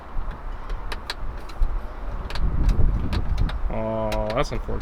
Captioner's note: buttons clicking